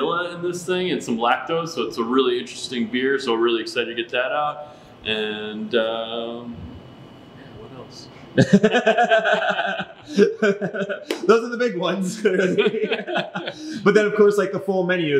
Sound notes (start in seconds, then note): 8.4 laughing; 11.8 both laughs